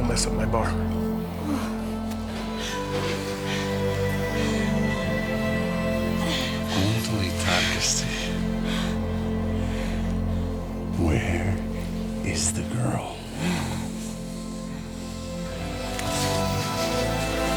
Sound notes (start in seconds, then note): 2.4 soft music; 7.3 speaking Finnish; 14.5 suspenseful music